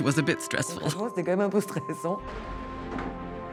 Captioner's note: chuckling